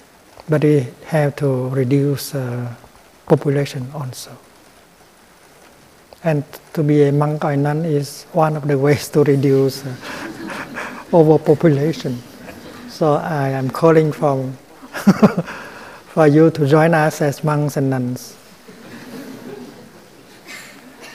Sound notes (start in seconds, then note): 9.9 laughter; 14.8 laughter; 18.6 laughter